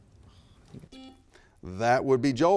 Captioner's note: buzzer buzzing